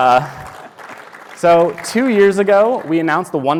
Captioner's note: applause